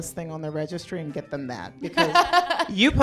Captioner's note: everyone laughs